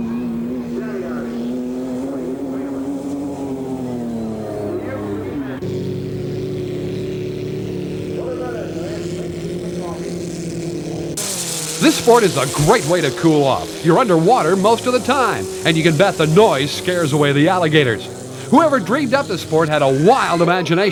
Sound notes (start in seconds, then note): 0.7 engine revs; 5.7 water splashes